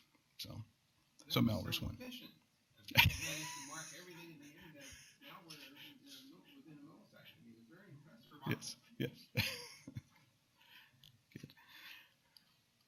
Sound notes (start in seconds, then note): 9.0 laughs